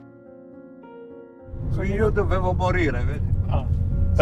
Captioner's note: car engine noise